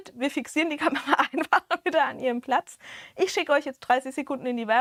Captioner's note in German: gelächter